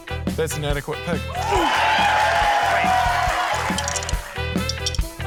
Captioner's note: cheering, applause; coin rattles